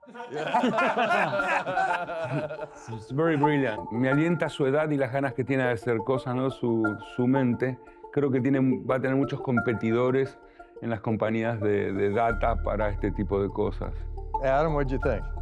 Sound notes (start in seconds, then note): 0.0 laughing; 3.9 Spanish